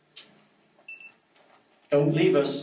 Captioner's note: beeping